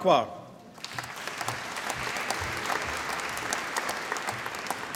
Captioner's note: applause